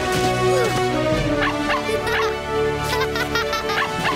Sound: barking, laughing

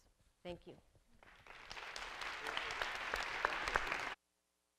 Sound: applause

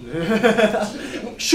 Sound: laughs

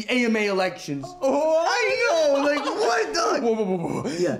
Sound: laughs

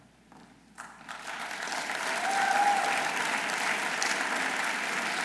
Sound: audience applauding

